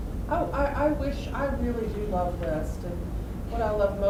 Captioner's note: voiceover